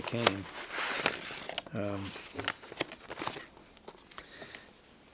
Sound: envelope rustles

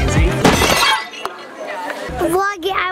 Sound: glass breaking

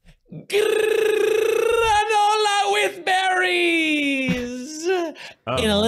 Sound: trills

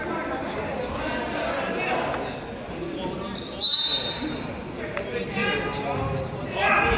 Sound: crowd chatters; whistle blows

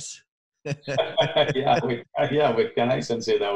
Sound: both laughing

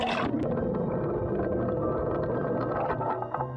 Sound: anchor grinding; water gushing

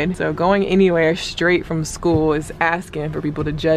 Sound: foot thuds

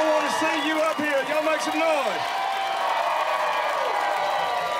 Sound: cheering

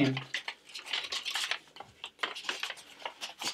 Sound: paper rustling

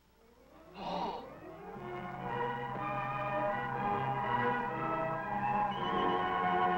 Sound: crowd gasps; dramatic orchestral music

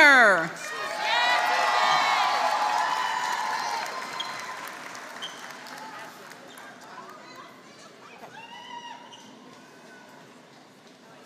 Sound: applause

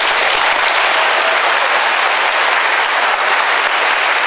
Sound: applause

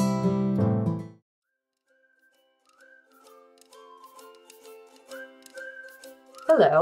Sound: uplifting Music; people whistling in tune joyfully

